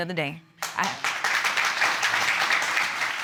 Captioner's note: audience applauds